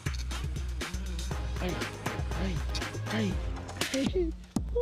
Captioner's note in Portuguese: grunhindo; gemendo e falando com voz fina